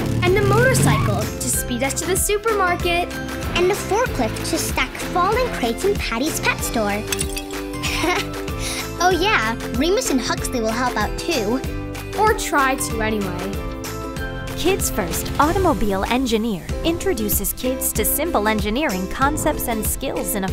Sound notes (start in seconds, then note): 7.8 laughing